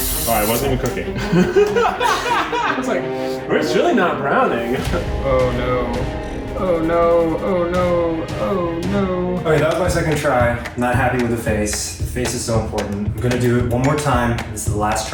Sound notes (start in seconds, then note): 1.2 hysterically laughs